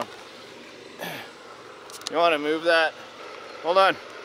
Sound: gasps

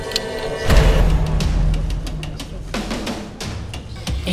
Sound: clock ticking; explosion

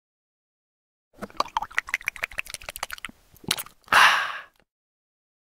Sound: sound of drinking

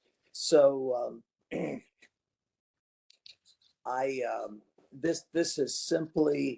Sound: cough

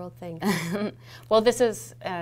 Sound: laughs

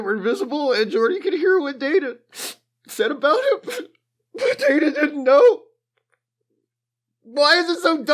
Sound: sob

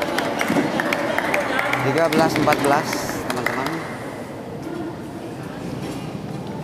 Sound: applause

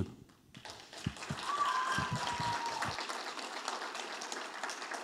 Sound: audience applauding

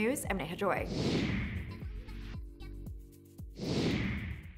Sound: whooshing

